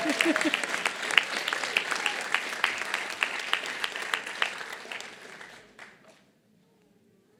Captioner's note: applause